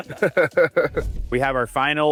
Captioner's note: all laughing